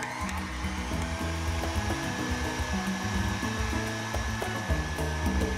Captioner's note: mixer whirring